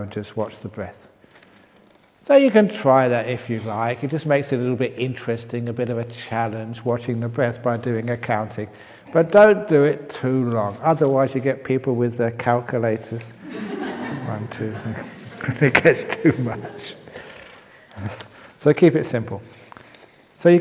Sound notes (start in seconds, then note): 13.4 laughter